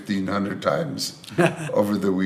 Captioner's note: laughs